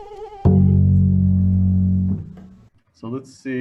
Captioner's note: mosquito buzzing; bass note plays